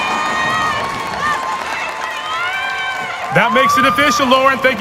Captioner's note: applause